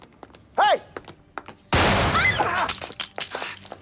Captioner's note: screams